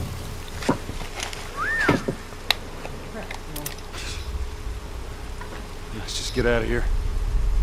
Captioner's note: whistles